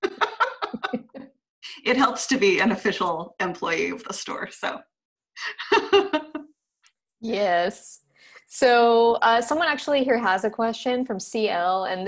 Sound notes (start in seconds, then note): 6.1 laughs